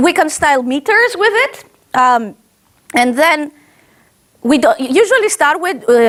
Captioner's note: none